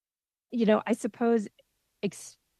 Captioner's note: speaking French